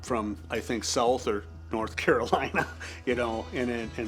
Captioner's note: chuckles